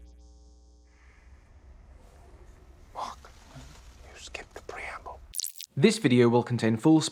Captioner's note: TV fizzles